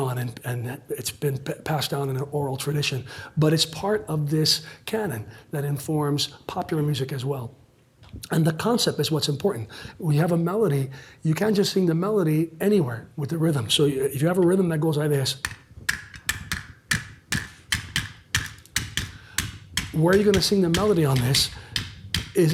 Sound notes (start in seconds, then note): 15.8 claps rhythmically